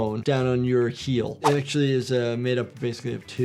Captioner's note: audio whooshes